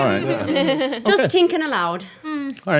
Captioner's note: laughing